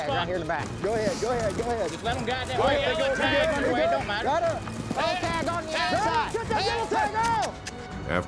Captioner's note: cowboys clamoring